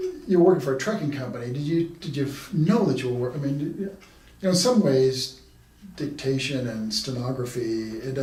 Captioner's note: none